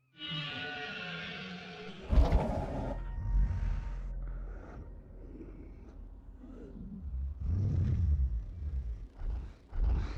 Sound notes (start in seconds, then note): 0.1 loud eerie music; 2.4 dinosaur growls